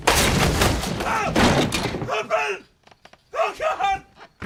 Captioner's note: screams; bed clatters